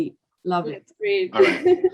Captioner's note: laughs